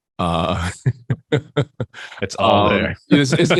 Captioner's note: both laugh